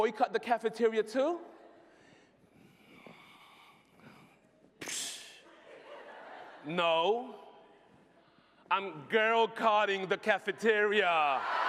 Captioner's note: laughter